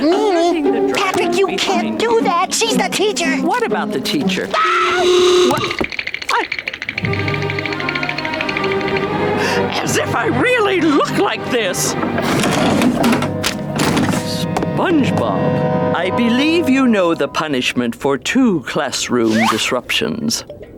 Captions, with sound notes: Patrick, you can't do that! She's the teacher! What about the teacher? [screaming] Wha? I... As if I really look like this! SpongeBob, I believe you know the punishment for two classroom disruptions.